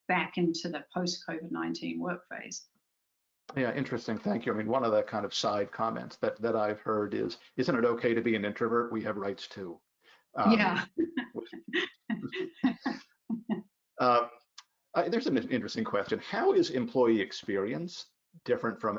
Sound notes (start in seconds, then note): 13.3 laughs